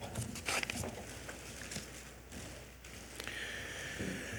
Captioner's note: paper rustling